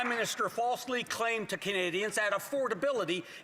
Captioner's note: some Applause